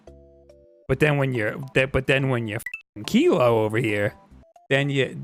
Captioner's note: beep